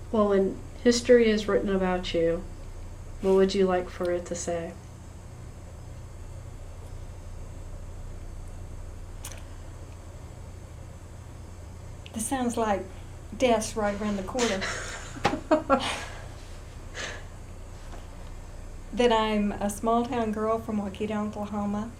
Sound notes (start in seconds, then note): 14.5 laughter